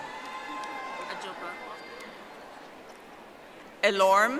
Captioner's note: audience applauding